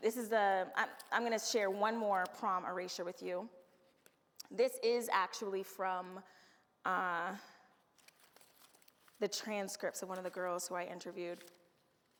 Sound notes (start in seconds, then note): none